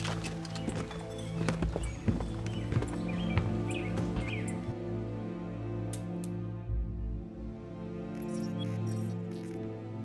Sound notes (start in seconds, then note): 0.9 sad music continues; 5.1 sound of gun clicking; 8.1 robotic beeps